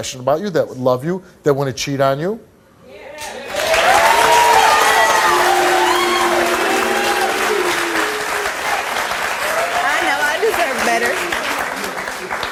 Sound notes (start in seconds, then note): 2.3 audience applauds